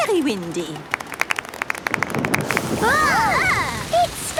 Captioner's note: exclamations; thunder